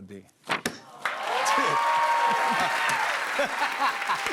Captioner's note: cheers and applause